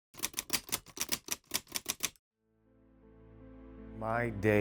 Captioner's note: typewriter clicking; somber music